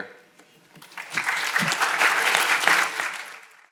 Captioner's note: audience applauding